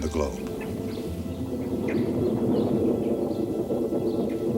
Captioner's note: thunder